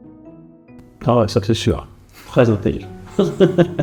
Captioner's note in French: rires